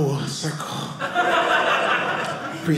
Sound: audience laughing

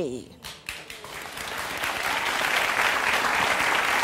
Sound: audience applauding

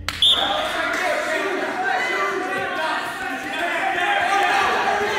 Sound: whistle blows; crowd cheering

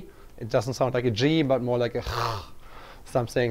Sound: throat sound

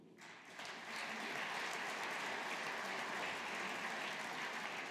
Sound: audience applauding

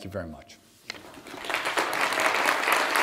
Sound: applause

